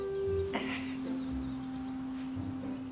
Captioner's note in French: soupirs